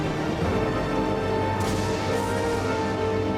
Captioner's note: thunder crashing